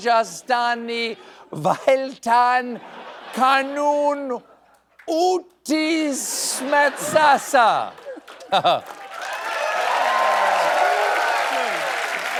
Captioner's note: cheers and applause